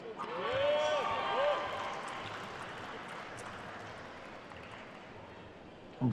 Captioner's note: attendees cheering and applauding